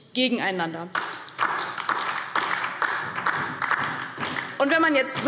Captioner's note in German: Beifall DIE LINKE